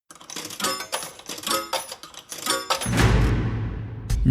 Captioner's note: coins dropping